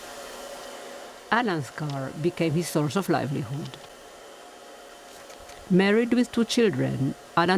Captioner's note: voice-over